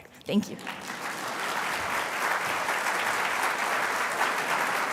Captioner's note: applause